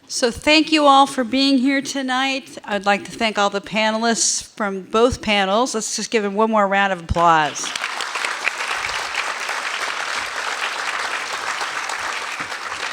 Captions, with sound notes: - So thank you all for being here tonight. I'd like to thank all the panelists from both panels. Let's just give them one more round of applause. (clapping)